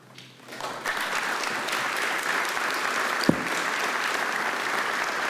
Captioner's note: audience applauding